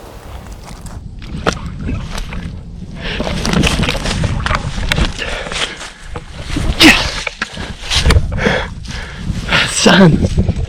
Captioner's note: clanking noises as fist pumps